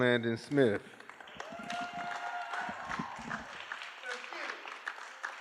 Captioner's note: cheering